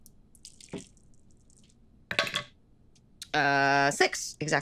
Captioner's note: dice rattling